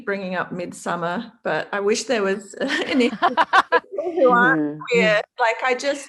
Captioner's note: laughter